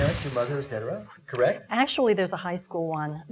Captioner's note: exhaling